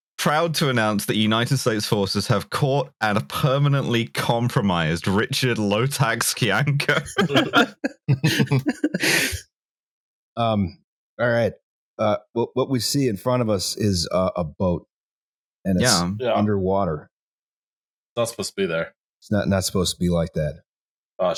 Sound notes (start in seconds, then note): 6.8 laughter